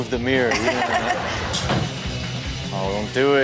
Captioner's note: Chanel laughs